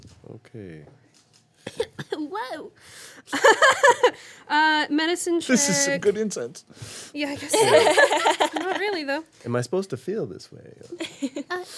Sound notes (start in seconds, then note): 1.6 coughing; 3.4 laughing; 6.7 inhales sharply; 7.4 group laughing